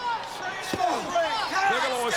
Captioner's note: crowd cheering